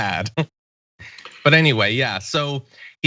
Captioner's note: laugh